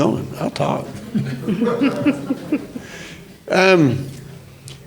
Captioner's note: audience laughs